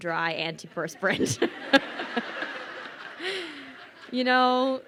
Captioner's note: crowd laughing